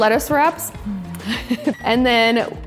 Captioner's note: laughs